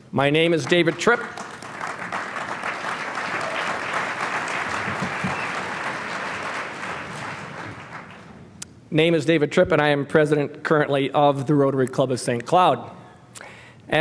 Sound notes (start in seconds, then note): 3.8 applause